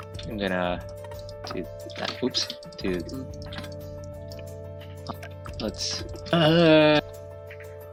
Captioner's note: Frustrated Sergal Noises